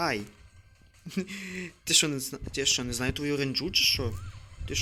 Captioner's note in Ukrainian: сміється